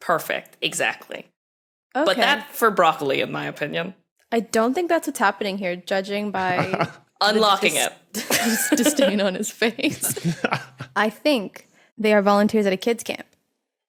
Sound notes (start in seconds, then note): 6.4 chuckles; 9.8 guessers chuckle in turn